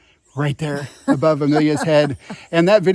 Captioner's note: laughing